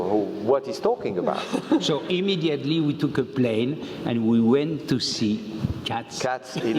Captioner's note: laugh